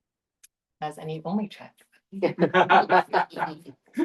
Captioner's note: laughter